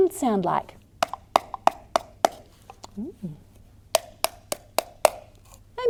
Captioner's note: tapping sounds can be heard